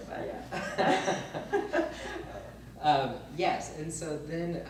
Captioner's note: both laugh